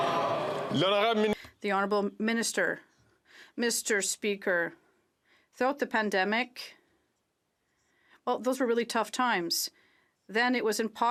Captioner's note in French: applaudissements